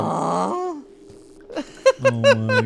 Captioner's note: laughs